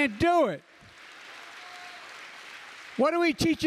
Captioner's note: applause